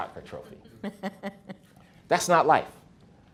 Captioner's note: interviewer laughs